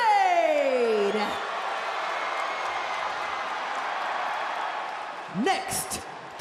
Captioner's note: crowd cheers